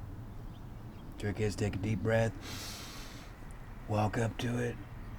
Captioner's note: inhales sharply